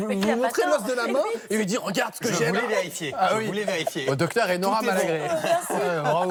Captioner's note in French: rires